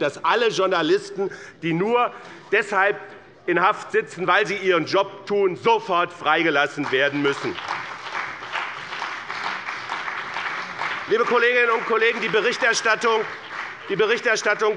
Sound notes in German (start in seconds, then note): 6.5 Beifall